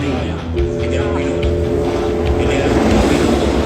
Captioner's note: start Bell Sounds